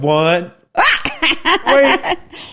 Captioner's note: laughs